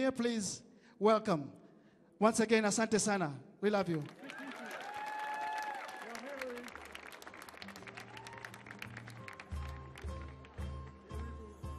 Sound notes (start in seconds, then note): 2.7 speaking in Swahili; 3.8 audience clapping; 4.1 audience cheering; 7.3 light music